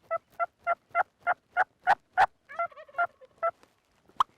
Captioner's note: turkey calling